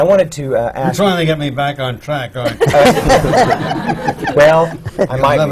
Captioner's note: laughter